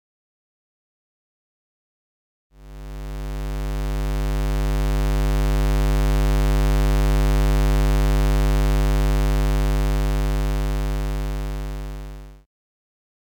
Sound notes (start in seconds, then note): 2.6 square wave sound